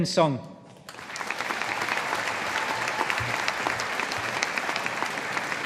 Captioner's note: audience applauding